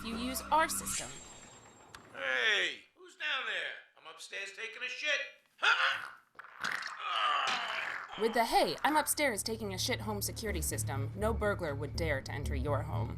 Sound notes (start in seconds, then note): 6.4 plopping; 6.9 grunting